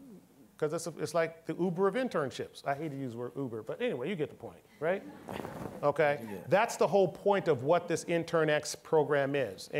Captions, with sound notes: 'Cause it's like the Uber of internships. I hate to use the word Uber, but anyway, you get the point, right? (all laughing) Okay, that's the whole point of what this internX program is.